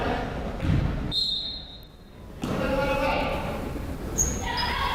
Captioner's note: whistle blows